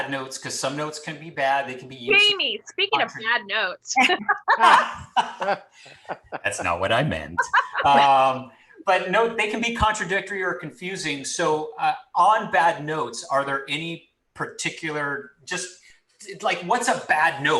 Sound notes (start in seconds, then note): 4.1 laughs